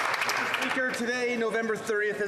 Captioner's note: applause